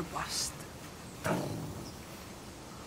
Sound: explosion sound

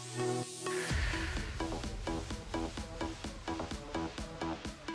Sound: breaths

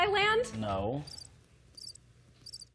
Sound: crickets chirping

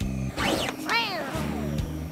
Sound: meowing

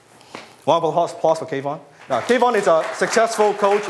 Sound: audience applauds

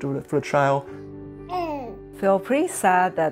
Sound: coos

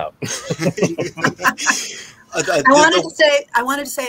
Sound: all laughing

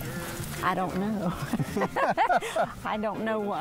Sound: laughter

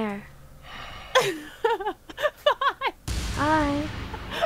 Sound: laughing

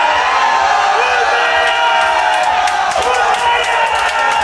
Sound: crowd cheering

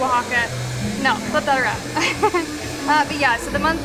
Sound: laughs

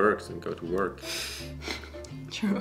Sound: both chuckling

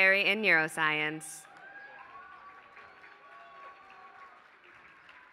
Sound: applause

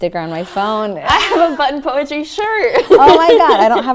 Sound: gasps; laughs

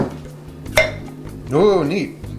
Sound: lid pops

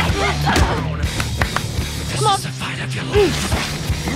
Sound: hands clap

